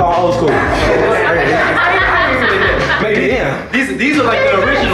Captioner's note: students laughing